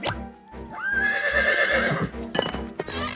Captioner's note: horse whinnies